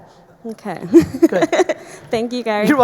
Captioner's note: laughs